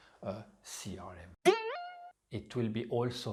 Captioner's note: spring bounces